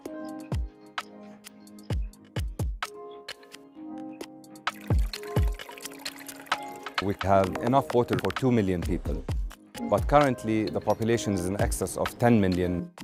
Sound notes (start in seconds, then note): 4.6 water pouring